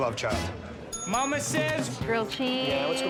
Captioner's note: bell dings